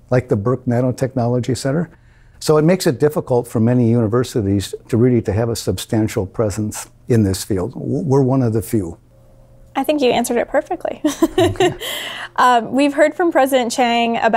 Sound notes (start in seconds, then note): 11.1 laughs